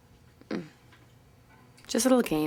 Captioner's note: Justine sighs